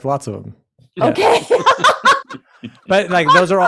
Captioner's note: laughs